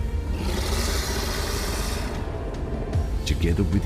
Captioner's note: snarling